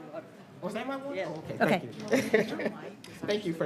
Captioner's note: chatter